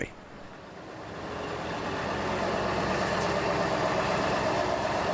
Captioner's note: truck rumbling